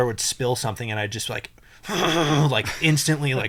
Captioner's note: grunts